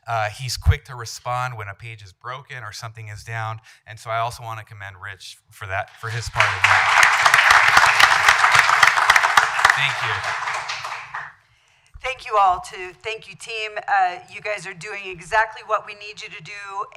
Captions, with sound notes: Uh, he's quick to respond when a page is broken or something is down. And so I also want to commend Rich for that, for his part in that. (applause) Thank you. Thank you all, too. Thank you, team. Uh, you guys are doing exactly what we need you to do.